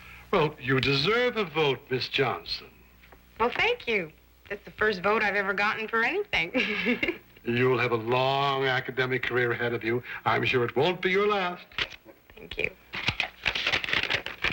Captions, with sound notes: Well, you deserve a vote, Miss Johnson. Well, thank you. That's the first vote I've ever gotten for anything. [ giggles ] You'll have a long academic career ahead of you. I'm sure it won't be your last. Thank you.